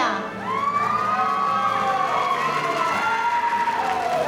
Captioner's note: audience cheering